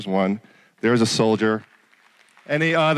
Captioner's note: applause